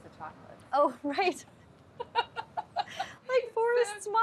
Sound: laughs

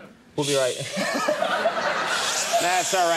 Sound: Conan laughs; audience laughing

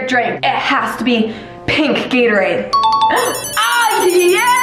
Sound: bell dings

